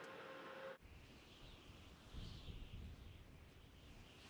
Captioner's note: wind